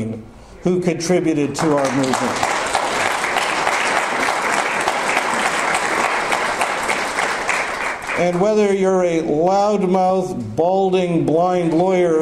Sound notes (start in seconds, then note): 1.6 audience applause